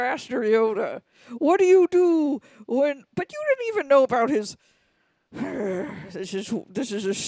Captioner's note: sighs